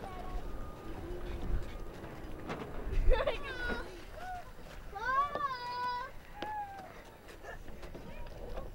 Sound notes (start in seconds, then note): 2.9 giggling